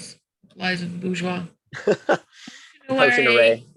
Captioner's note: murmurs